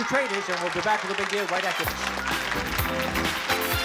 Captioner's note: applause